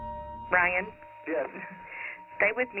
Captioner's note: on phone